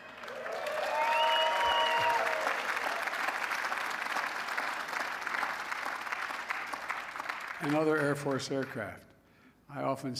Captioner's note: laughter and applause